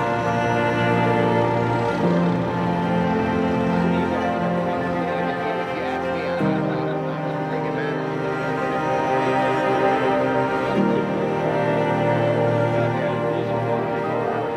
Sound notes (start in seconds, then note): 6.4 crew murmurs